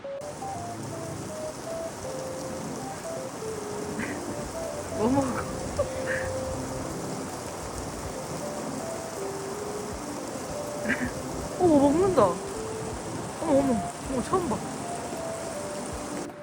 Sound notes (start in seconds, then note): 7.6 busy footsteps